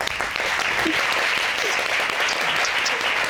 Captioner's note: audience applauding